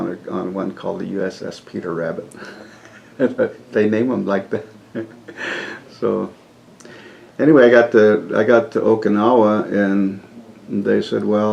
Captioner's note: laughs